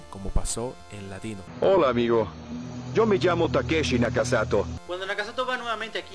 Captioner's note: in Latin Spanish